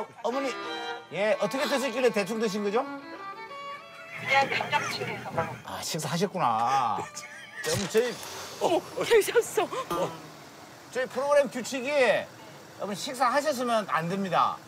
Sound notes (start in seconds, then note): 9.8 the car suddenly started